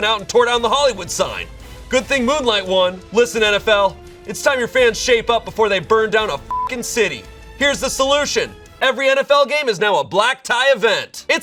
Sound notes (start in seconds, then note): 6.4 beep